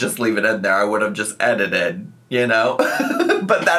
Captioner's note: laughs